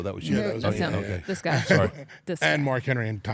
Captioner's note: laugh